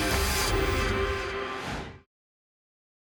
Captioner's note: whoosh